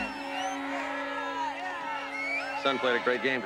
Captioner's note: whistle